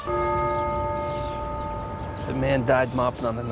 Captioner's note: bell tolls